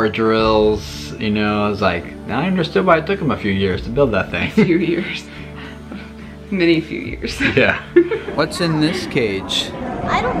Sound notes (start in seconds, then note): 6.0 laughing